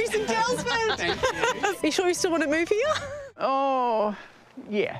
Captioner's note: laughter